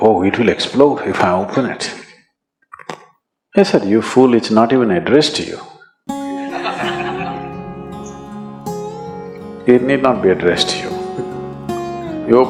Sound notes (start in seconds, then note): 8.9 laughter